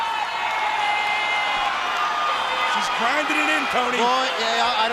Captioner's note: crowd cheering